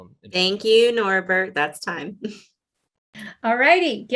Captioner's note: chuckles